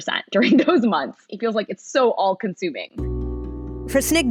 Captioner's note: laughing; low-tempo music